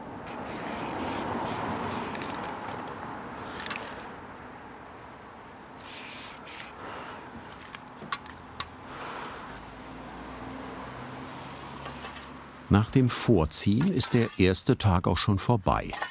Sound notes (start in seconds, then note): 0.0 hissing spray can sound, rushing traffic; 7.9 metallic clatter